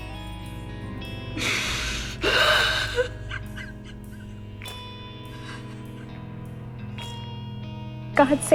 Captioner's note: Moira cries